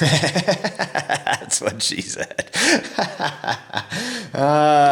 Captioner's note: laughing